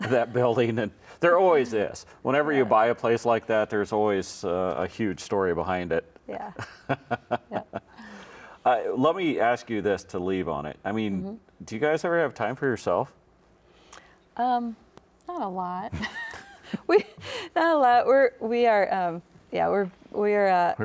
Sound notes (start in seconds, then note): 6.6 chuckling; 15.9 laughing